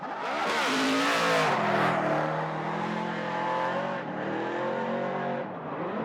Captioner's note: cars racing